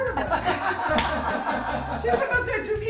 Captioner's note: audience laughs